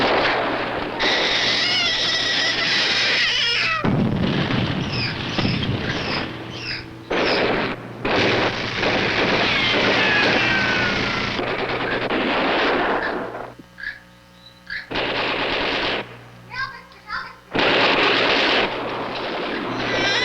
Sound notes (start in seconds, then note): 1.0 babies crying; 3.0 bombs falling; 7.0 guns firing